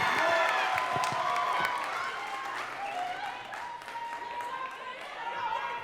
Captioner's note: audience cheering and clapping